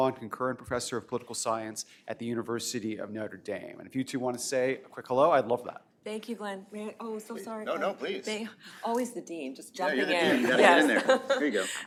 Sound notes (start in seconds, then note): 10.2 laughter